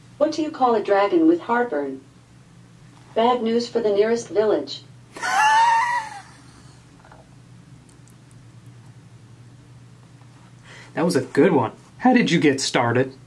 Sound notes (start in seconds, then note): 5.2 laughing